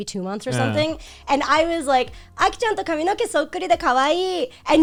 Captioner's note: speaking Japanese